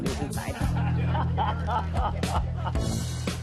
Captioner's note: laughter